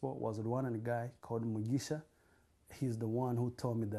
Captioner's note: non-english